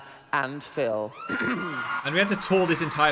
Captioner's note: audience cheering; clears his throat